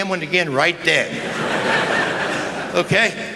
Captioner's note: laughter